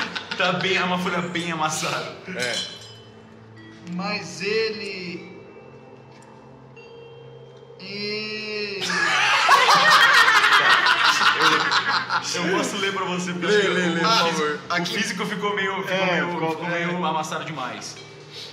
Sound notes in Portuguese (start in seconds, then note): 0.0 Risadas; 8.8 Risadas